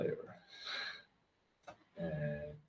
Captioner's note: laughs